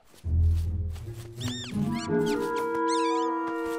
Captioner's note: squeaking